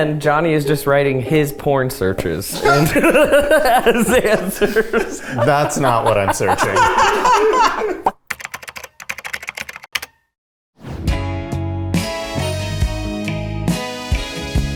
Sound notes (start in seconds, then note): 7.1 everyone laughs; 8.8 keyboard clacking; 11.0 sultry music